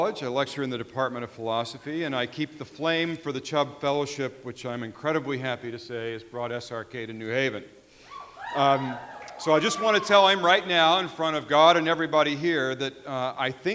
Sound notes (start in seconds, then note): 8.1 audience cheering